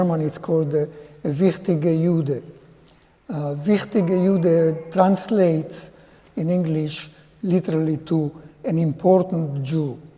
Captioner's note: speaking in German